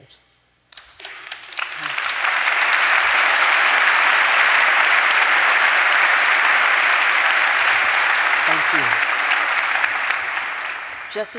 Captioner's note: applause